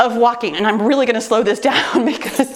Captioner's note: laughs